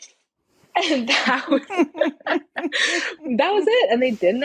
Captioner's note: both laughing